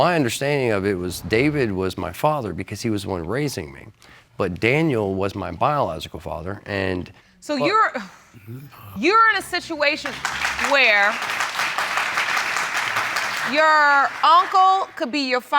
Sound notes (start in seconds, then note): 9.4 audience applauding